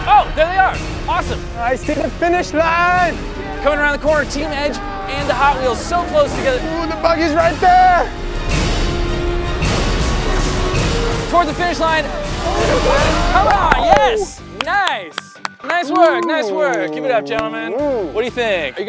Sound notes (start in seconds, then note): 8.9 dramatic music; 13.3 clapping; 15.8 light upbeat music